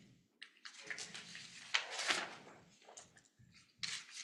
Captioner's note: paper rustling